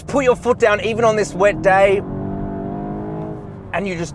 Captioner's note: car engine accelerating